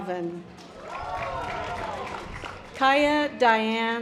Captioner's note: audience applause